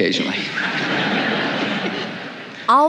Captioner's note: audience laughs